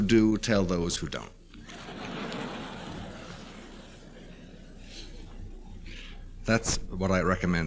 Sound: laughter

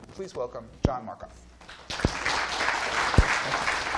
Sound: applause

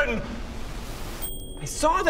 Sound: ding!

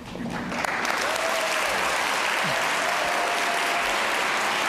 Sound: audience applause

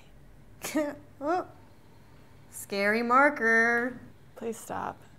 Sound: giggles

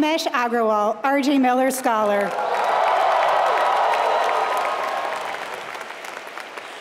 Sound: applause

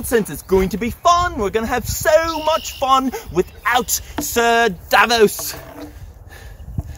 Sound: pants

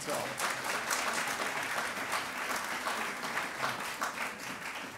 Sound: audience applauding

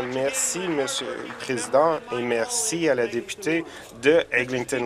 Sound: applause

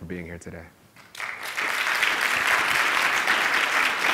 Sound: applause

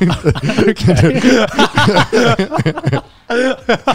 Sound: everyone laughs

